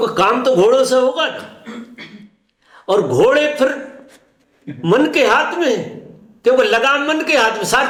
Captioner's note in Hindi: खांसने की आवाज़